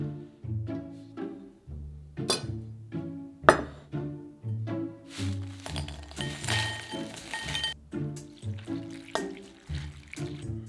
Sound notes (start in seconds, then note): 0.2 quirky music playing in background throughout video; 5.2 pieces dropping; 8.2 liquid pouring